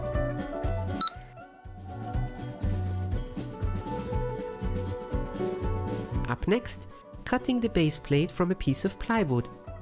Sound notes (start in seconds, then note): 1.0 beep!